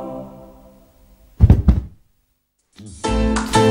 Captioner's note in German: Dumpfer Schlag